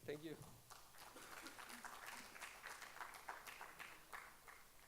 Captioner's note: audience applauding